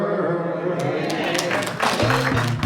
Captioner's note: applause